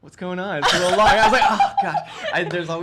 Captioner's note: laughter